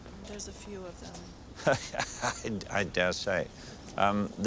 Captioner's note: Pail laughs